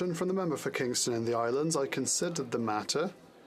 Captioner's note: speaking French